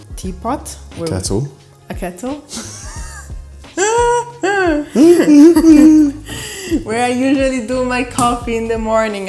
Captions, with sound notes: - Teapot. - Kettle. A kettle. [laughter] where I usually do my coffee in the morning.